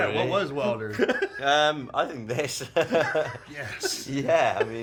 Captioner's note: laughs